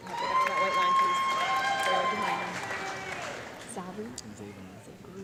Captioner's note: audience clapping and cheering